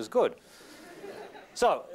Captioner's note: laughter